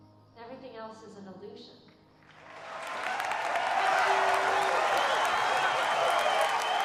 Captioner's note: applause, cheering, whistling